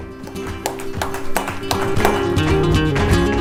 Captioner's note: applauding